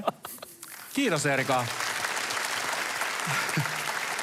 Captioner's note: applause